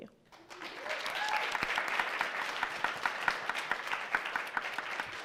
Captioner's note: audience clapping